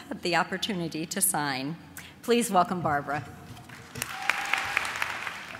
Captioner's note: applause